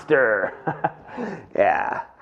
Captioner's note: laughing